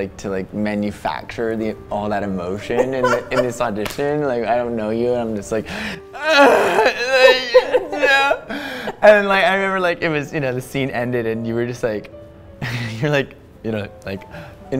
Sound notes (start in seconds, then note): 2.7 giggling; 6.2 groans